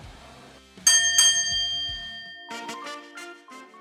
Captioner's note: bell dings